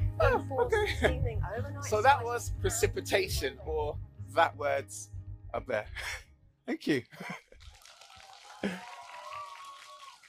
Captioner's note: applause